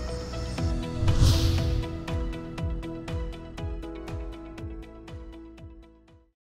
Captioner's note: uplifting music; swooshes